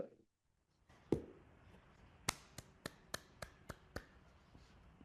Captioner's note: trustees clapping